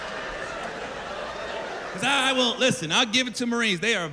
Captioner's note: laughter